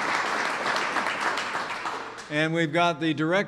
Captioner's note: applause